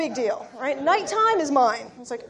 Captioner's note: laughter